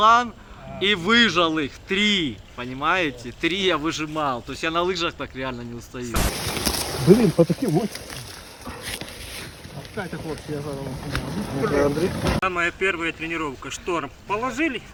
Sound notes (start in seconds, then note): 5.5 man struggling